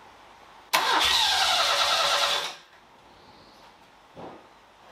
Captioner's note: engine noise